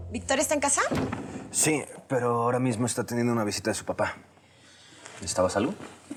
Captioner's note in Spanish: portazo